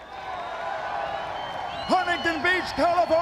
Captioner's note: crowd cheering